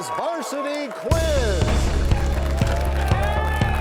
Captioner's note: crashing sound